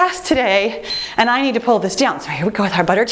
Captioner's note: timer beeps